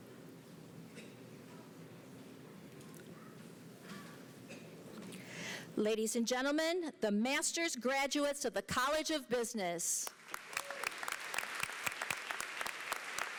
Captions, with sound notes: Ladies and gentlemen, the masters graduates of the College of Business. [APPLAUSE]